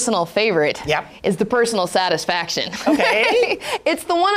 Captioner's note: laughs